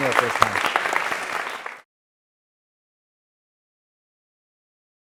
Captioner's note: applause